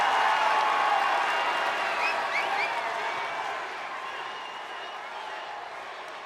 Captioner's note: applause